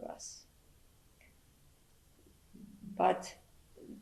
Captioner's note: pauses for 3 seconds